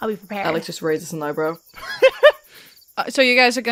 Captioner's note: laughs